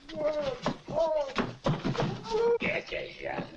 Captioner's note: Josh yelling muffled